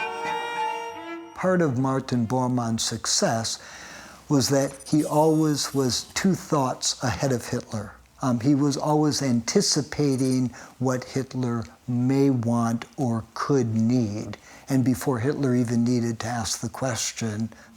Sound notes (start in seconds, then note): 1.4 German spoken audio